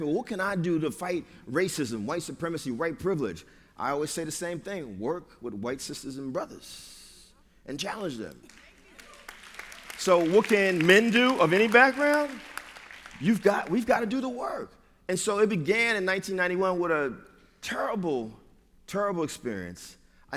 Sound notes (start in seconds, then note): 8.4 applause